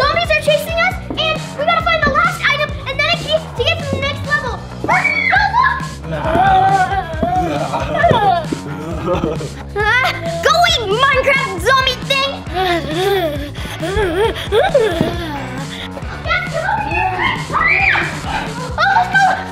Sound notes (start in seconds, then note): 6.0 both growling; 15.1 upbeat music